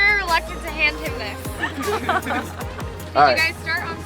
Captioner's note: laughing loudly